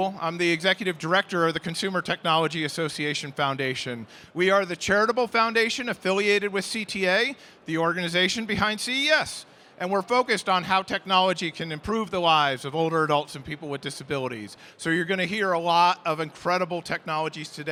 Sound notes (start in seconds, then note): none